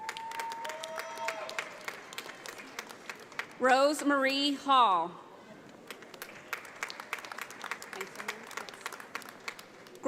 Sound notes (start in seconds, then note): 0.0 audience applauds; 5.8 audience applauds